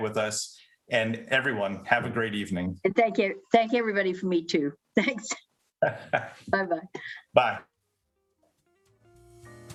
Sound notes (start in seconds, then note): 5.8 laughs